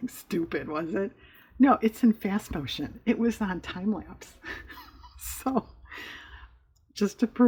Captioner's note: laughs